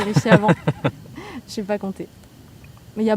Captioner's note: laughs